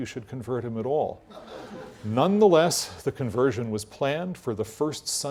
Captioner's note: laugh